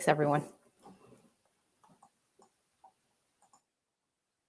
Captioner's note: silence